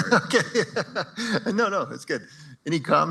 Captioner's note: chuckles